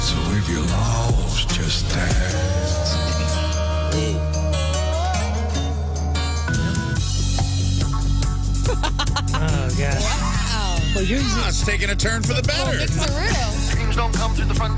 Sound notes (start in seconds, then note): 4.9 guitar Strumming; 4.9 laughing